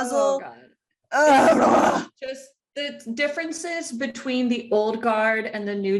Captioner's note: groan